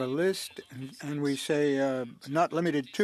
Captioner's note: speaking French